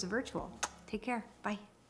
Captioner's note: lips smacking